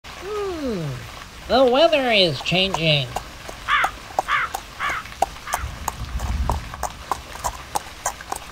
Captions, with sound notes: - Hm, the weather is changing. (horse hooves clopping) (crow caws) (rain patters)